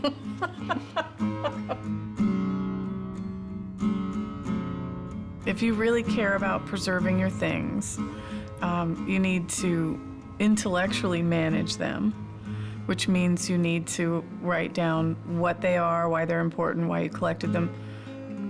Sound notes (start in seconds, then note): 0.0 laughter